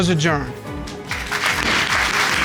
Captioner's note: audience applauds